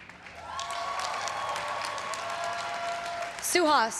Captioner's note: everyone cheering and applauding